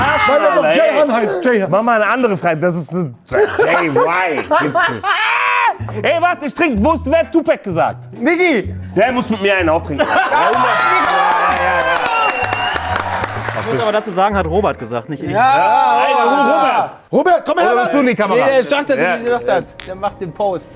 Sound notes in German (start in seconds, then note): 4.8 Lachen; 10.4 Jubel, Pfiffe